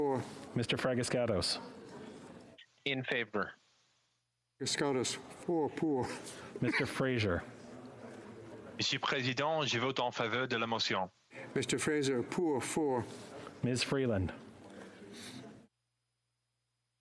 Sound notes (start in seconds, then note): 13.2 speaking French